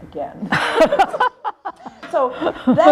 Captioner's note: laughter